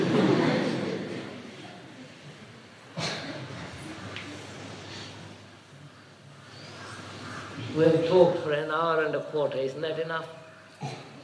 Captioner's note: laughter